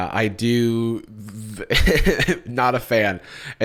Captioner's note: chuckles